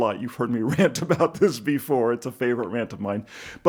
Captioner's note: chuckles